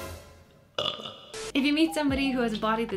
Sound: burps

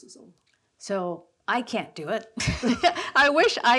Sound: laughs

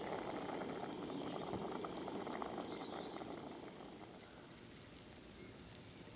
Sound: wind blowing

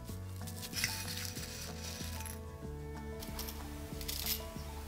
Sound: dried oranges tinkle against spoon

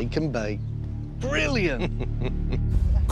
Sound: laughs

